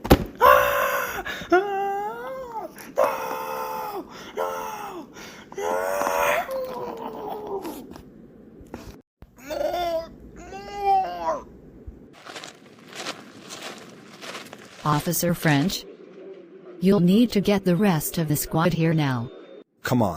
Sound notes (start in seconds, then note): 0.4 buck struggles and yells; 9.0 zombie speak; 12.1 footsteps